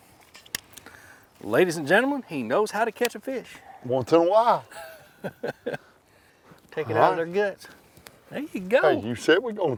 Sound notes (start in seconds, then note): 4.7 laughs